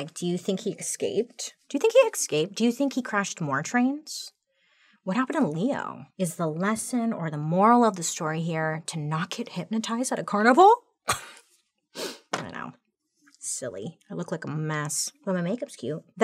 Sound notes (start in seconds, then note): 11.3 chuckles